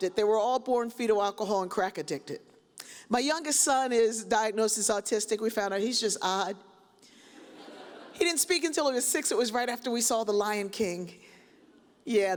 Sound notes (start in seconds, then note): 7.4 audience chuckles